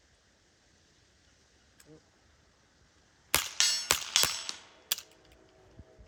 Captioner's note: gunshot